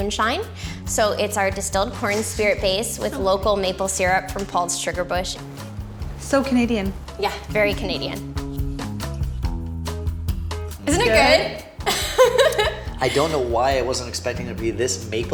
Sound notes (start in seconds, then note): 11.8 laughing